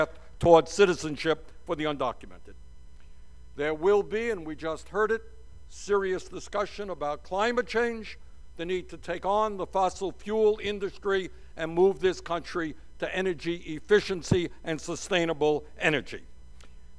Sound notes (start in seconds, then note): none